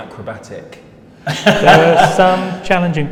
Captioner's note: laughs